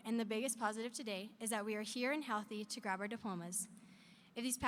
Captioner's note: none